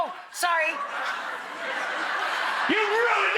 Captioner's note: audience laughing